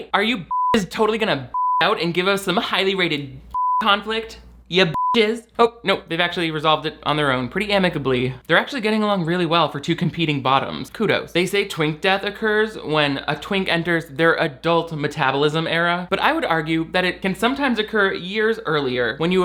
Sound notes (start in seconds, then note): 0.4 beep; 4.9 beep